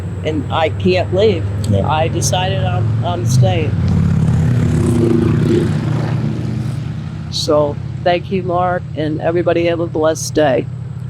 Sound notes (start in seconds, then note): 3.8 traffic droning